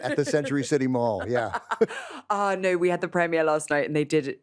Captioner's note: laughs